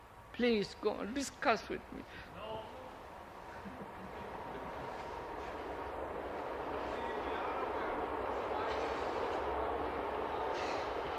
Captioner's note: sound of train